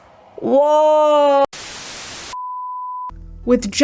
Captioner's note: static